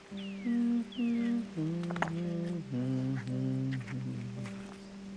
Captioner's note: humming softly